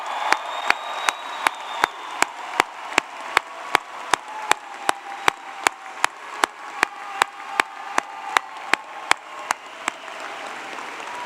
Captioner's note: applause